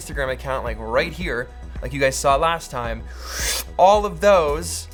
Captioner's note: sucking sound